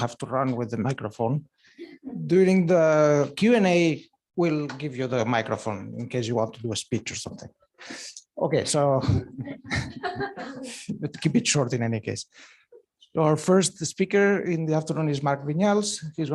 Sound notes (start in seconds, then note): 9.0 laughter